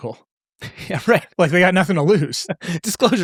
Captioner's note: laughing